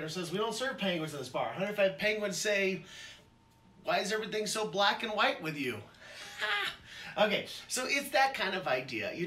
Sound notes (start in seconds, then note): 6.2 laughs